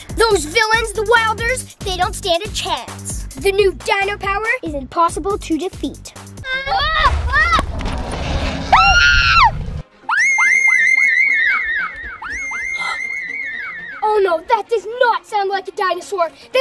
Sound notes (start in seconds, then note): 8.6 loud scream; 10.0 scream echoes